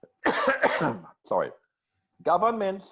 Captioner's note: coughing